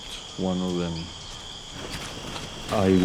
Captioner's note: birds chirping and squealing; footsteps crunching